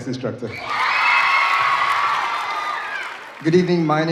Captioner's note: audience cheering